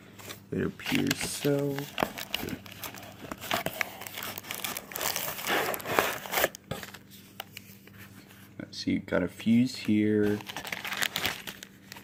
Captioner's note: cardboard rustling